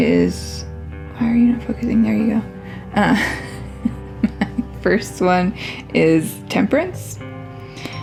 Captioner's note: laugh